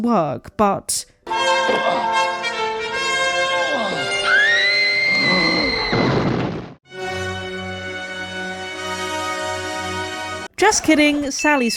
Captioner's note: Sally screams + credits play